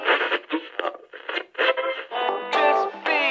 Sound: radio tuning

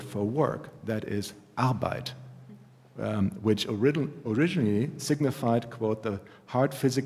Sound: german

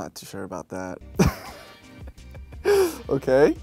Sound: he laughs

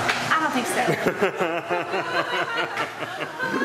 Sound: laughing

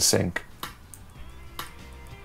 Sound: clap

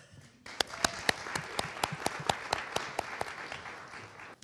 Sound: audience applauding

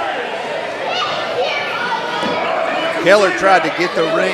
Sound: crowd yelling

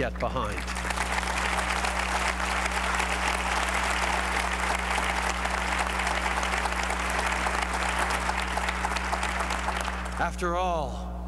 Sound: applause

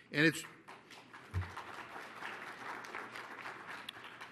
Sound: applause

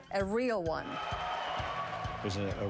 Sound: cheering

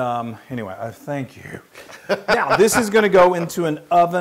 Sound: laugh

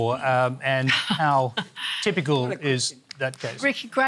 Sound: chuckles

